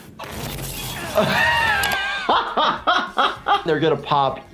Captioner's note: laughing